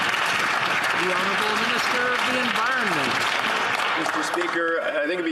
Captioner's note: some Applause